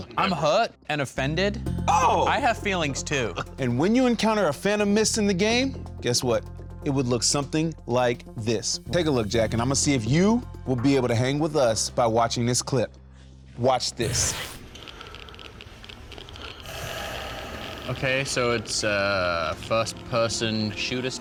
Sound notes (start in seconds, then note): 16.4 heavy breathing